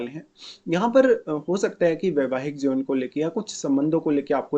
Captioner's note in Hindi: नाक से की जाने वाली आवाज़